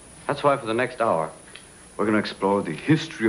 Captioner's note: none